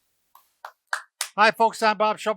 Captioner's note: claps hands